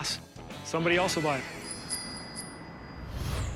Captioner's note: bell ringing